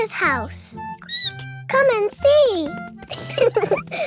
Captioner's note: squeaks; both laughing